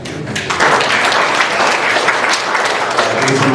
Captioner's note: applause